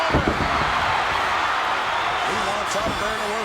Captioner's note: audience cheering